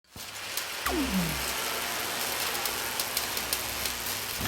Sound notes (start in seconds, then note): 0.8 buzzing